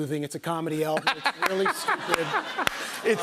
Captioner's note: laughter